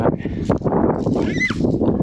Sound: squealing

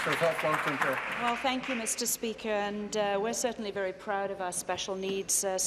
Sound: applause

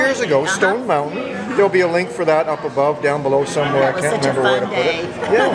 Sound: chatter

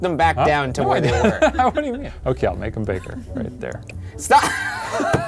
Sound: laughs; laughs

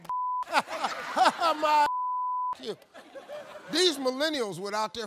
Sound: laughs; beep; laughs; beep

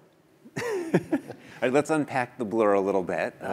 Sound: laugh

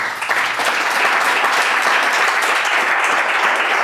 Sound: clapping

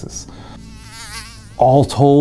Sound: mosquito flying

